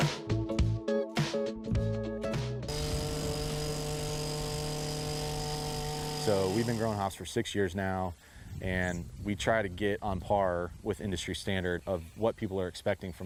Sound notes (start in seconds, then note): 0.0 funky music; 4.6 saw buzzes